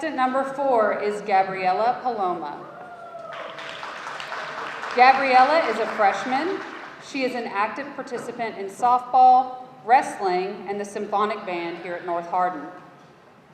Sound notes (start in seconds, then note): 3.2 audience applauding